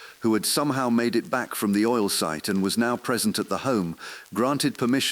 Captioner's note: exhale